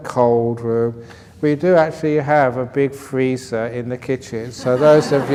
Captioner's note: laughter